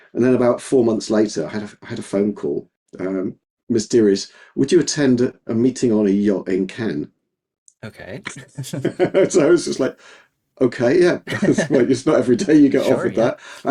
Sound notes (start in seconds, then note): 11.1 laughing